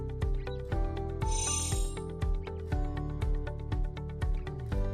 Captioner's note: chimes tinkling